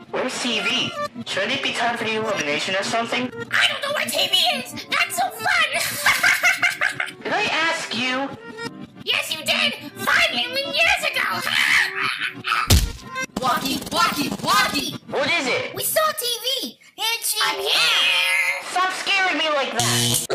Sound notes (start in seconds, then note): 5.7 laughs; 11.1 laughs; 19.8 bzzt